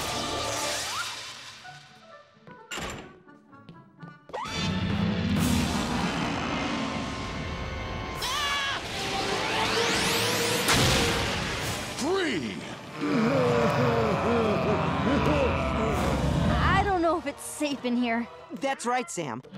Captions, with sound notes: [shrieking] Free. [moaning] I don't know if it's safe in here. That's right, Sam.